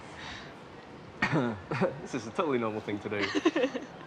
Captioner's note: coughs